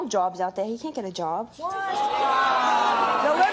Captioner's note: audience shouting